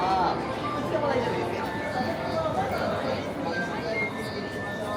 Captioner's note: crowd murmuring